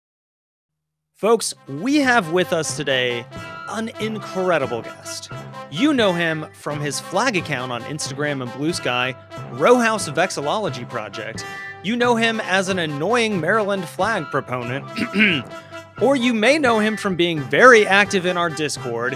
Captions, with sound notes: folks. We have with us today an incredible guest. You know him from his flag account on Instagram and Blue Sky, “Rowhouse Vexillology Project”, you know him as an annoying Maryland flag proponent (ugh), OR! you may know Him from being very active in our Discord...